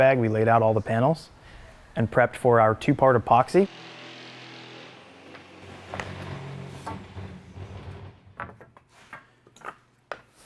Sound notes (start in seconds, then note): 3.8 machines humming; 7.6 wood clicking